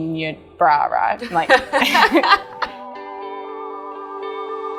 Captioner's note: laughs